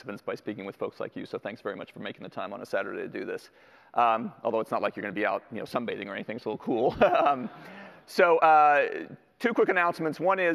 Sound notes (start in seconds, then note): 7.2 laughs